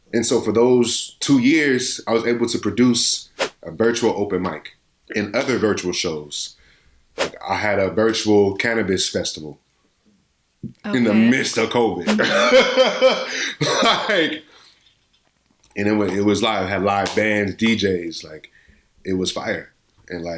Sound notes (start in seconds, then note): 3.4 whoosh; 7.2 whoosh; 12.0 whoosh; 12.1 laughing